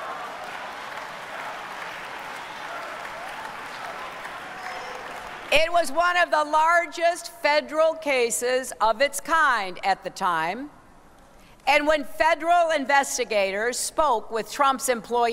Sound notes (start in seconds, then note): 4.3 applause